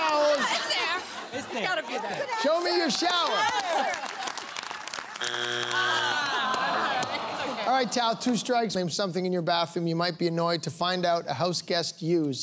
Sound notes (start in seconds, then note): 5.2 buzzer sounds